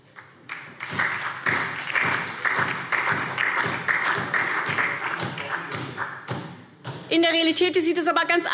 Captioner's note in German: Beifall SPD und DIE LINKE